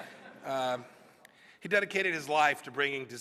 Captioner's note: laughter